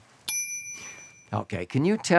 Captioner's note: bell pings